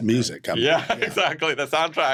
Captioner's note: laughs